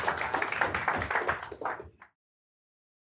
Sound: applause

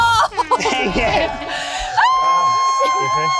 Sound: horn blows; cheering

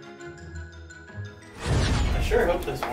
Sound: whoosh sound as portal opens

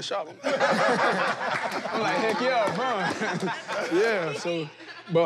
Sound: laughter

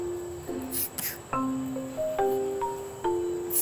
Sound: bottle spraying

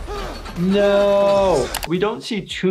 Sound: person screaming

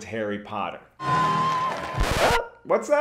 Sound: crowd cheering

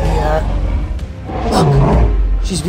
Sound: roaring

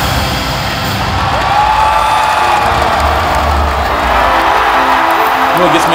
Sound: crowd cheering

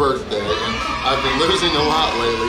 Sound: kids cheering

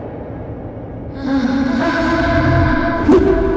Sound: sighs

